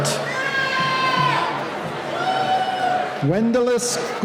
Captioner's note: cheering